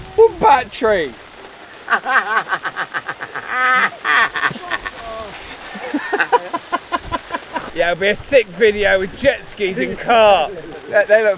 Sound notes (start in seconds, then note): 1.8 men laughing